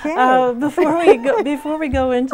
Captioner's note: laughing